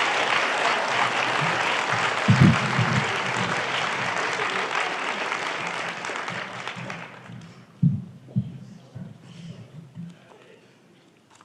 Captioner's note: applause